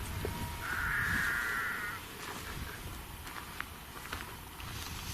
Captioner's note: sheep bleating